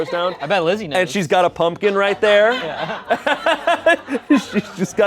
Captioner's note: laughs